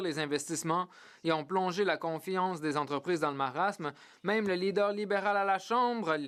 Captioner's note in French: voix de l'interprète